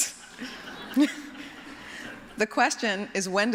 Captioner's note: laughter